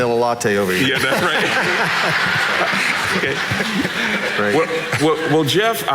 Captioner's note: audience laughing